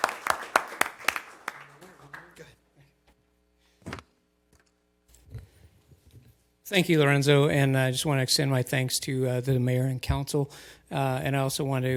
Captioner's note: applause